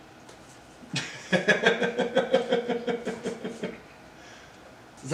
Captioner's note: laughs